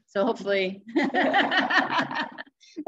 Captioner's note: laughter